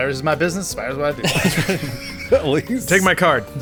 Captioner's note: laugh